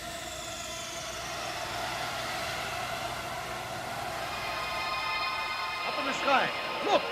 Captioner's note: mechanical whirring